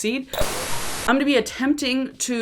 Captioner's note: record whooshing